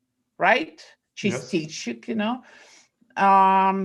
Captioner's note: speaking foreign language